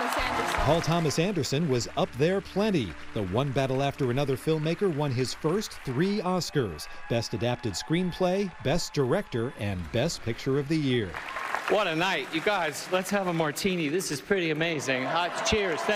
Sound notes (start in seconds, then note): 3.5 applause